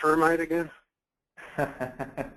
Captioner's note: laughs